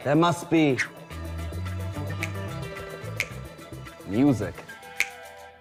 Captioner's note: snaps finger rhythmically